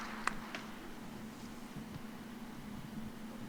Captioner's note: cheers and applause